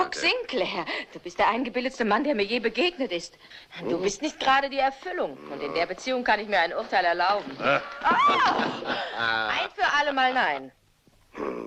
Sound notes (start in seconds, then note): 7.5 chuckling; 8.0 screams